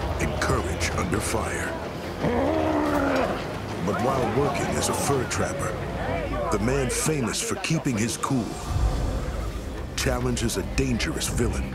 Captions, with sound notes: AND COURAGE UNDER FIRE. [GROWLING] BUT WHILE WORKING AS A FUR TRAPPER THE MAN FAMOUS FOR KEEPING HIS COOL... CHALLENGES A DANGEROUS VILLIAN